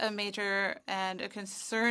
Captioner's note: speaking French